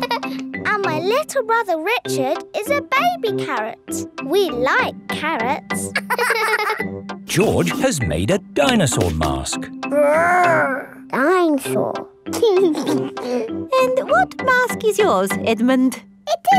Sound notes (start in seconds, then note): 0.0 giggles; 5.9 both laughing; 12.4 giggles